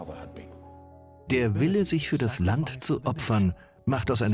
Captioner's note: voiceover